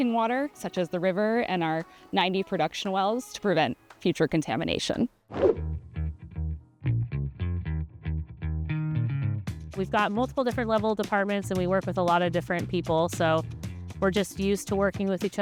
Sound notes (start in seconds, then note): 5.4 air whooshes; 7.1 poised music